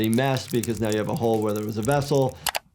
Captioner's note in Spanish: sangre goteando